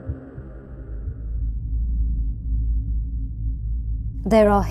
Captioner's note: low whirring sounds